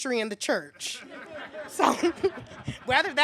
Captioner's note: laughing